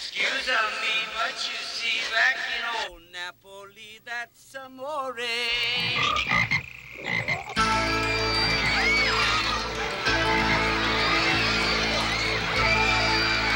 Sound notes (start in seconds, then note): 5.4 frogs croaking; 7.6 people screaming; 7.6 tense music